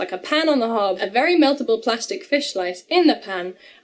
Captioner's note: none